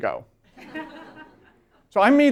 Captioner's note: laughter